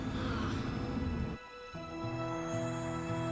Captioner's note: Ryann groans